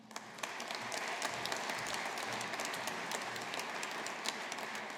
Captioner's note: audience applauding